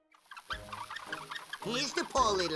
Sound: wheels squeaking

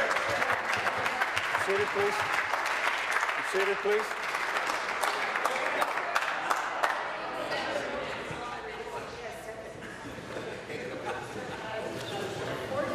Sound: applause

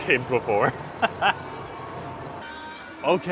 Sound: laughing

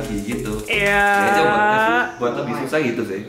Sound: asserting dominance through screeching

